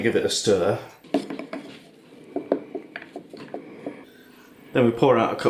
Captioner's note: stirring sounds